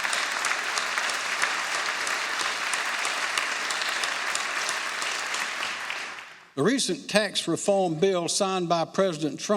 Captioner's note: applause